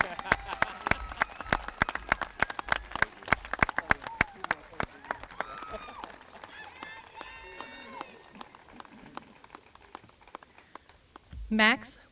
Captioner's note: applause